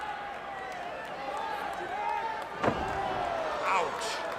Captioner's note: crowd cheering